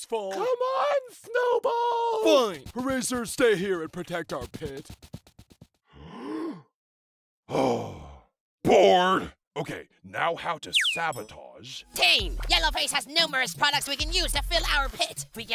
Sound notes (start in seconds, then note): 5.8 inhales; 7.5 exhales